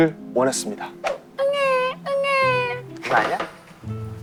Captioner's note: crying